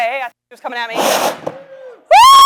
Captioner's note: flame hisses